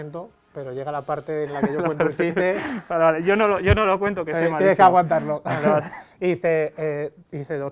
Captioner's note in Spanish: risas